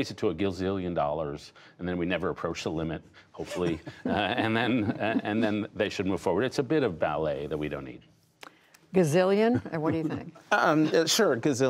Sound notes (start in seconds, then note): 3.4 laughter; 9.5 laughter